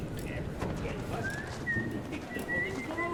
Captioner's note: whistling